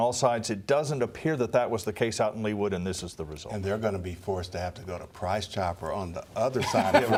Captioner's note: laughter